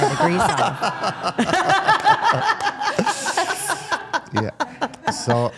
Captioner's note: participants laugh